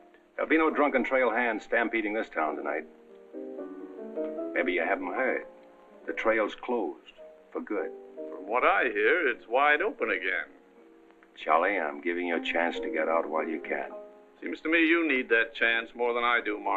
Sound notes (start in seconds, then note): none